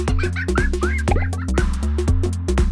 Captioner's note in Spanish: risas